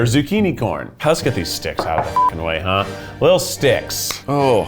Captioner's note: beep